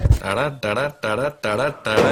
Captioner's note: humming